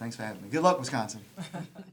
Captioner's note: laughter